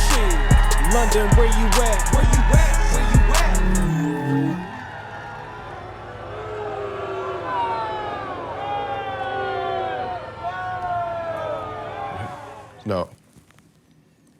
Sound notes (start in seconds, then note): 3.3 hologram whirs; 6.2 crowd boos